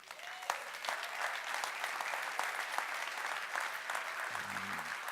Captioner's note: applause